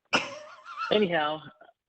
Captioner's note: laughs